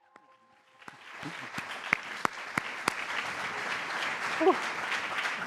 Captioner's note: applause